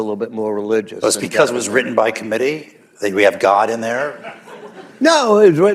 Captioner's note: laughter